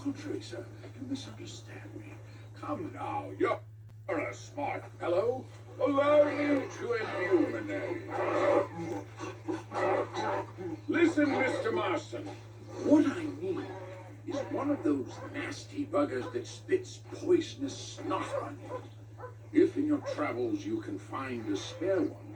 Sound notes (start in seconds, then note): 6.8 zombie screams